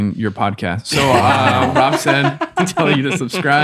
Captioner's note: all laughing